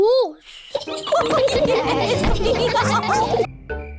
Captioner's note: all giggle